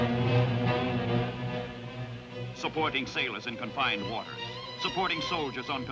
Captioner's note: planes buzzing